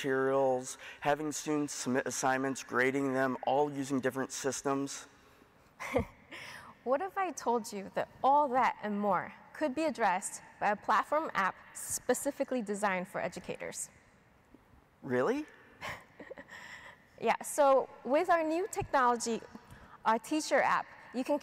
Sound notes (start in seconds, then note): 5.8 chuckles; 15.8 chuckles